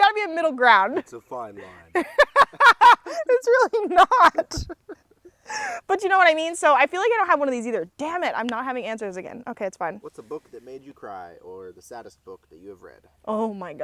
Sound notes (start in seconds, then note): 1.6 laughs